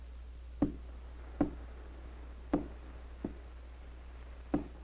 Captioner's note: faint tapping on door